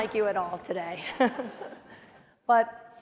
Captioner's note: laughter